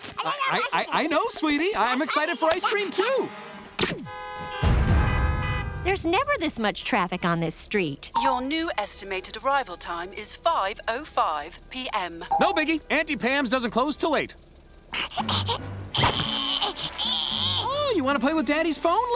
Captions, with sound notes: I know, sweetie; I'm excited for ice cream, too. [honking] There's never this much traffic on this street. Your new estimated arrival time is 5:05 p.m. No biggie. Auntie Pam's doesn't close 'til 8:00. [grunting] Oh, you wanna play with Daddy's phone, Lily?